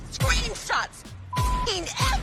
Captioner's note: beep